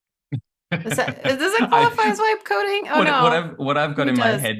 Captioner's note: laughs